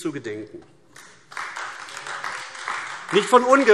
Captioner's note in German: Beifall AfD